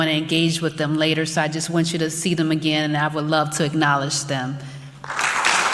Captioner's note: applause